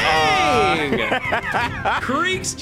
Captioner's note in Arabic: تضحك